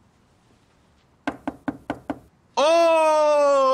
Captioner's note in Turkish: kapı sesi